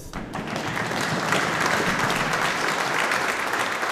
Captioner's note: audience applauding